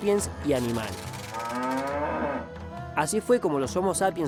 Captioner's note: cow moo